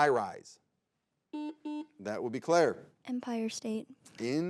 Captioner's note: button blips